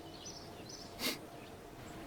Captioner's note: sniffle